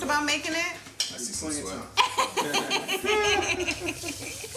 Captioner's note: laughter